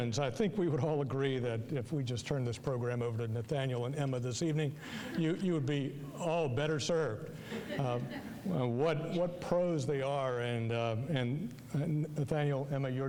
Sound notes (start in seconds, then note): 7.4 audience laughing